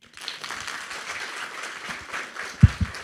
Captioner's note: applauding